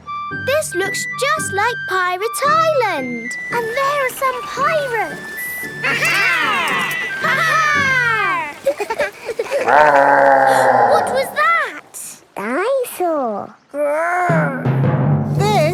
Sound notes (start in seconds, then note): 9.2 laughing; 10.2 growling; 11.0 gasps